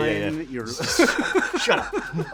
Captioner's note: laughing